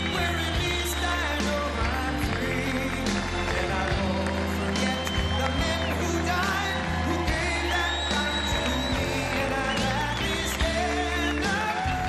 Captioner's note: cheers and applause